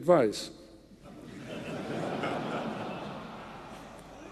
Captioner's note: audience laughing